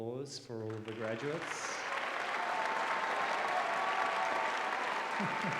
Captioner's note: applause